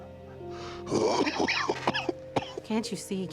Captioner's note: coughing